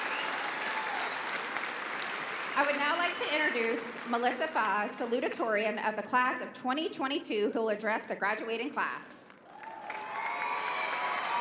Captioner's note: applause